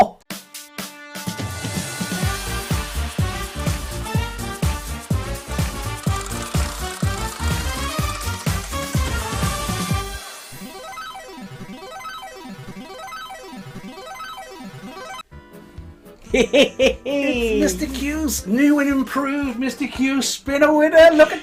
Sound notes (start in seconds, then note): 0.2 upbeat music; 6.1 wheel spinning; 10.5 video game beeping